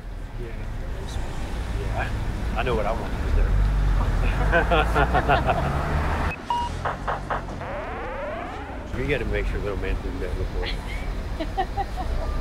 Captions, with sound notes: [LAUGHING] WE GOTTA MAKE SURE LITTLE MAN SEEN THAT BEFORE [LAUGHING]